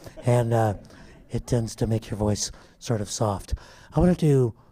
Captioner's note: laughter